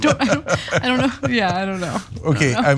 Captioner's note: laugh